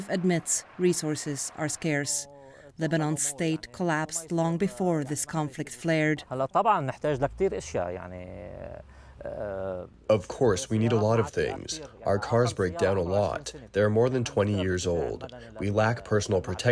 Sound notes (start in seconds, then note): 10.6 through translator